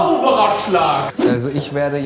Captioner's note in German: woosh